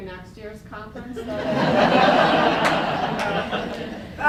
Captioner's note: laughter